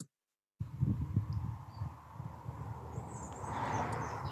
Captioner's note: outdoor ambience